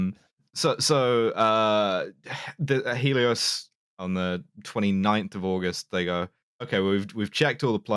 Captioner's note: sighs